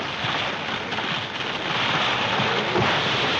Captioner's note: tree creaking